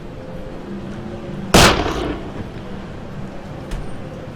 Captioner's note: gun blasting